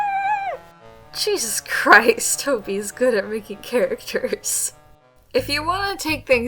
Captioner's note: muffled screaming into pillow x 1